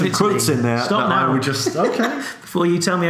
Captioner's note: laughs